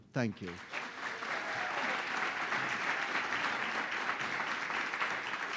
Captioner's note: audience applauding